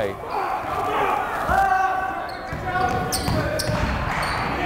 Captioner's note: yelling